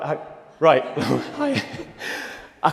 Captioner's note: laughs